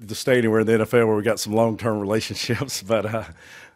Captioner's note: chuckles